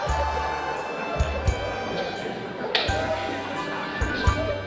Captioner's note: laughter and convsersation